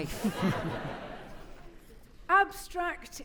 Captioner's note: audience laughing